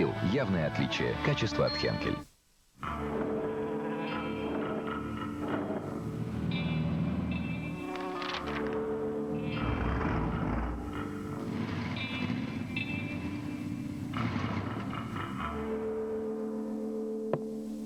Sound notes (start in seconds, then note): 2.7 engines roar; 2.8 calm music; 17.6 rhythmic music